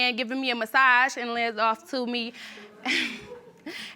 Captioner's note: chuckles